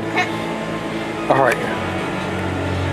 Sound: laughs

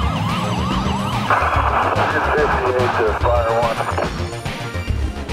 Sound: radio chatter; upbeat music

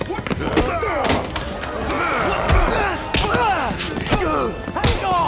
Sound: grunting

